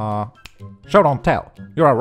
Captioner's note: snap!